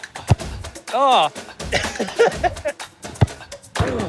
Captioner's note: laughs